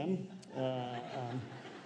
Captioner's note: laughter